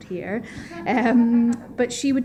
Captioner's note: laughter